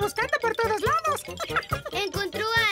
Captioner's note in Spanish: risas